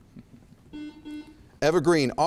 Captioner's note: buzzer chimes